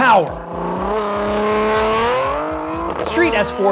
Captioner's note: engine revving